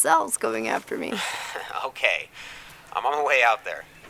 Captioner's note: laughs